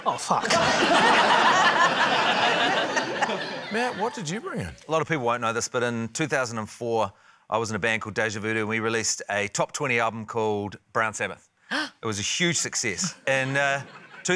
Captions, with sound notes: - Oh, fuck. (LAUGHTER) - Matt, what did you bring in? - A lot of people won't know this, but in 2004, I was in a band called Deja Voodoo, and we released a top 20 album called 'Brown Sabbath'. - (GASPS) - It was a huge success. (LAUGHTER)